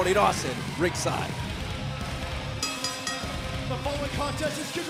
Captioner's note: bell ringing